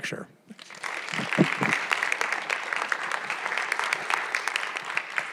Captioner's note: audience applauds